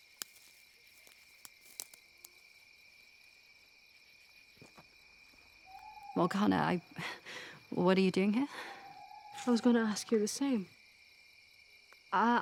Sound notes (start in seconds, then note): 3.6 crickets chirping